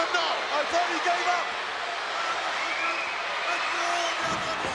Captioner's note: crowd yelling